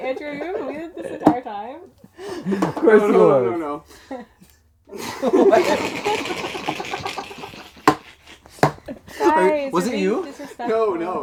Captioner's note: laughter